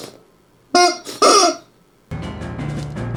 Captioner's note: chicken noises